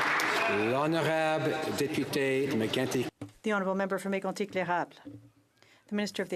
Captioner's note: some Applause